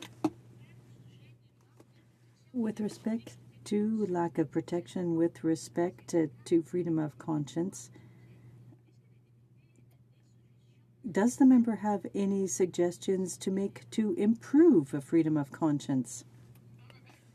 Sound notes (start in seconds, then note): 4.2 speaking French